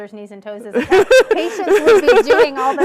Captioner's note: laughing